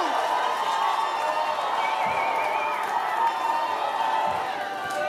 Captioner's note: audience cheering